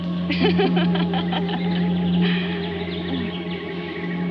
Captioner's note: Helen laughing